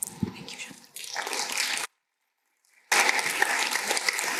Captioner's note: applause